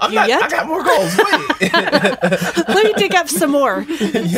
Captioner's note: laughing